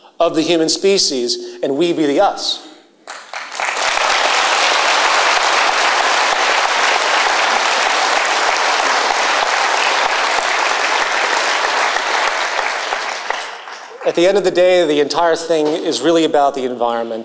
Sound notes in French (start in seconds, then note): 3.5 Applaudissements